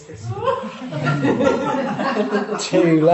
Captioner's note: audience laughing